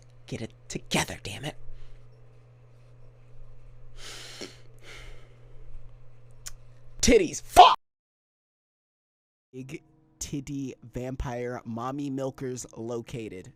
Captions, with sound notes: Get it together, dammit. *DEEP INHALE* *DEEP EXHALE* TIDDIES FUCK!!